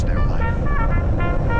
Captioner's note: sounds of approaching rocket